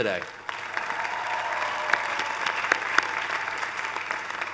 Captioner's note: cheering